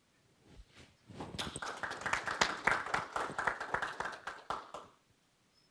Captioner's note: audience applauds